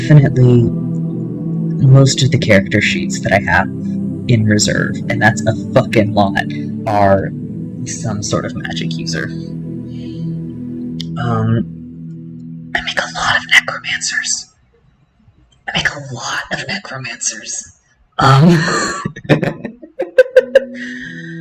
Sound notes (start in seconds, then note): 10.8 whispered; 18.3 laughter